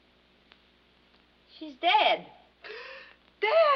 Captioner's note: gasps